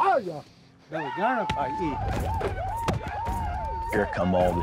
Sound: speaking shoshone; whooping sounds outside

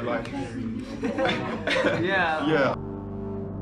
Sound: laughter

